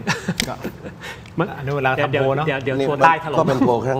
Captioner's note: laughter